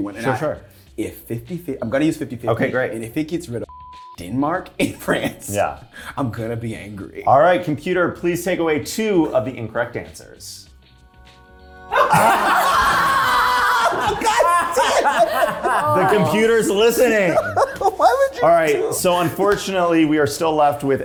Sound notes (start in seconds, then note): 3.7 beep; 11.9 cast laughing